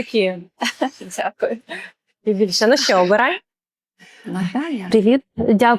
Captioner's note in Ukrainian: сміх